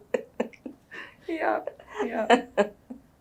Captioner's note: laughs